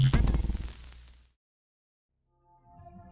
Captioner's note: silence